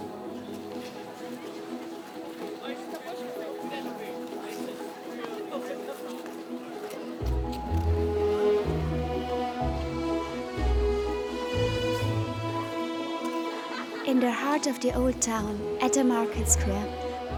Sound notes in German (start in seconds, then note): 2.6 undeutliches Gerede; 9.6 verträumte Musik